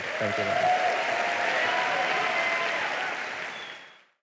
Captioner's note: applause